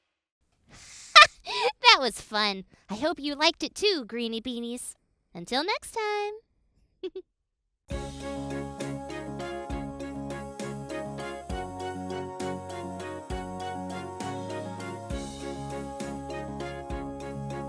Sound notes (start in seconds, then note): 7.0 chuckling; 8.2 upbeat music